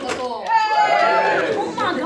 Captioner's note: audience cheers